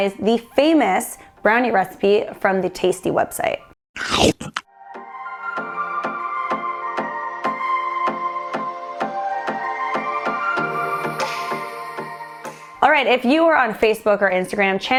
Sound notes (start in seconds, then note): 3.9 chomps; 4.7 upbeat instrumental music